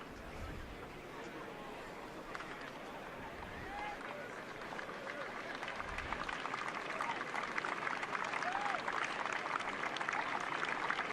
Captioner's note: applause